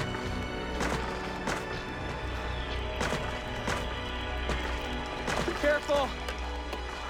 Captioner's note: kicking sound